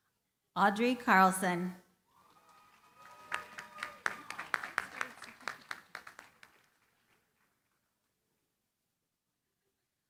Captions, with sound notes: Audrey Carlson. [CHEERING, APPLAUSE]